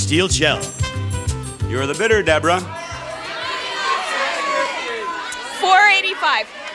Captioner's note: audience shouting